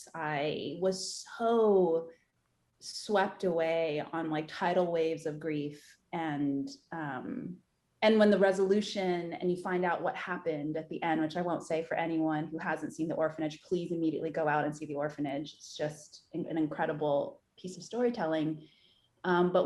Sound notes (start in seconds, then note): none